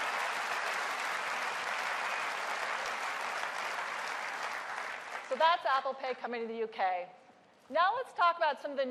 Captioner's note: applause